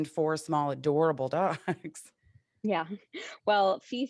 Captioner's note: chuckles